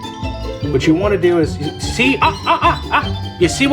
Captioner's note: shouting